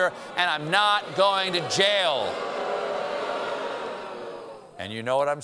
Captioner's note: booing